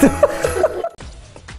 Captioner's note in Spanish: Ríe